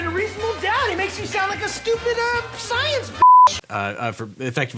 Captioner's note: beep